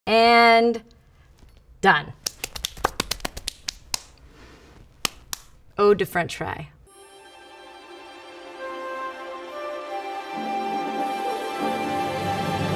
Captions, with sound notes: - And done. (hands clapping) Eau de French Fry. (exciting classical music)